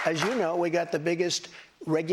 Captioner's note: applause